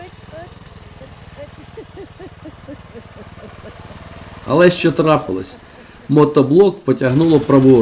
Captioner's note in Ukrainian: сміх